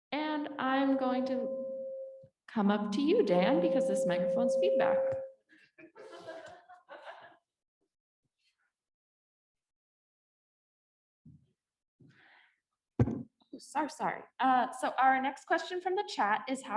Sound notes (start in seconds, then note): 5.7 people laughing